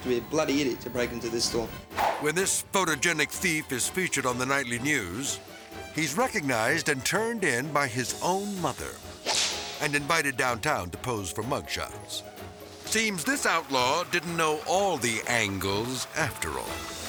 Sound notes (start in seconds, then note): 1.9 transition whips; 9.2 whip cracks